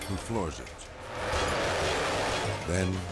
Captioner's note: engines roaring